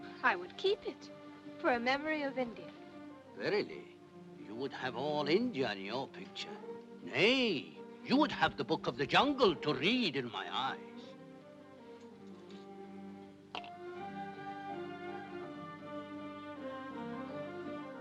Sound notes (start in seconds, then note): 13.5 coins clink; 15.4 soft music